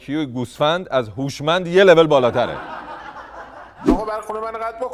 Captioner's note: laughter